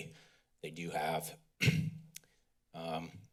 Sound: clears throat

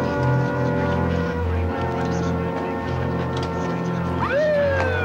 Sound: siren blaring

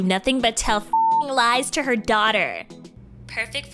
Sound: beep

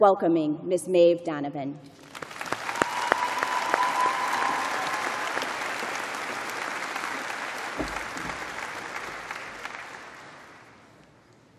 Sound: applause

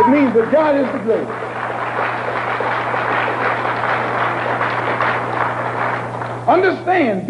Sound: applause

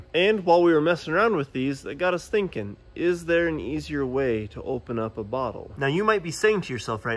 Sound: none

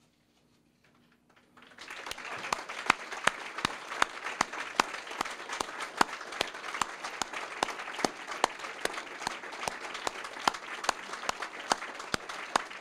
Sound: applause

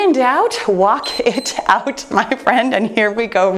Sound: timer beeps

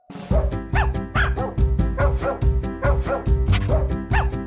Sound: dogs barking

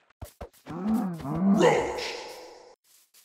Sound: cow mooing

